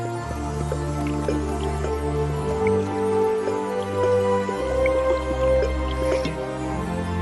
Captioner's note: gulping